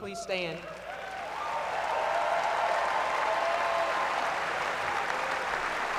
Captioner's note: applause